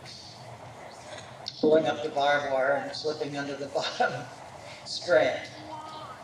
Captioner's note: chuckles